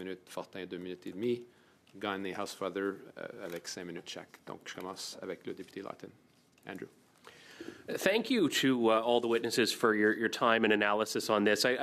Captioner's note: speaking French